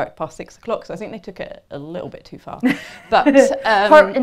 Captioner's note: laughter